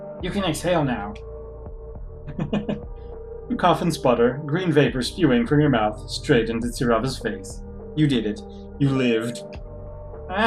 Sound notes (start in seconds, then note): 2.3 chuckles